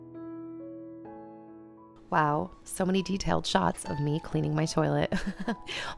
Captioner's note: laughter